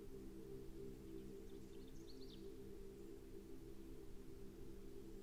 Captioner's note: birds chirping